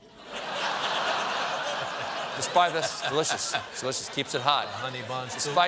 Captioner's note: laughter